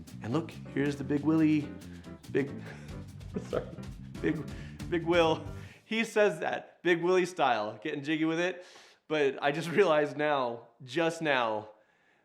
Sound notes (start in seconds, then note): 0.0 upbeat music; 3.8 laughing